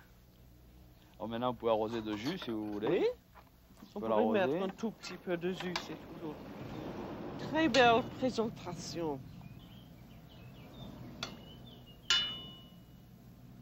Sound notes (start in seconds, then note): 0.1 conversing in French; 9.0 birds tweeting; 12.0 clang